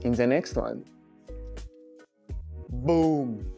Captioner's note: happy noises of finishing a month-long video